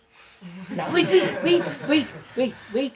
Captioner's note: laughter